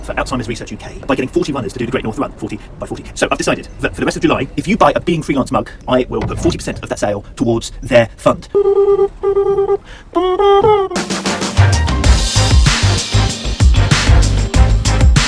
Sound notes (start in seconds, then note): 8.1 humming; 10.9 energetic music